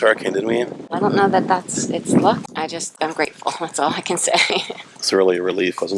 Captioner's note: laughter